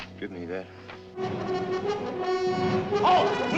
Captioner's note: trumpets, alarms